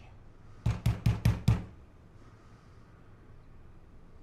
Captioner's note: loud knocking